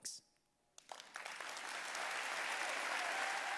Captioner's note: audience applauding